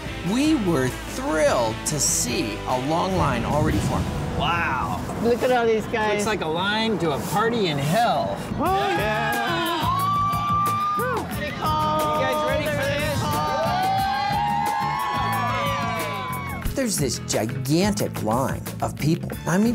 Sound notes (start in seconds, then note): 9.9 cheering crowd; 13.8 hooting, cheering crowd